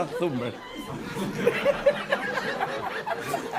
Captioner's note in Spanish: Risas